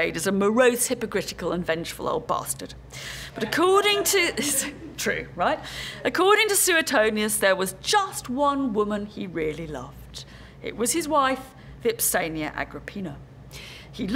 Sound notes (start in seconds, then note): 3.3 laugh